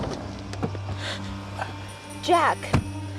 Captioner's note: kerry gasps